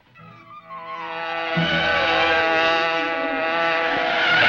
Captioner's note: car buzzing